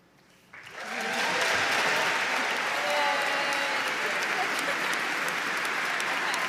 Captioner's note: audience applauding; audience cheering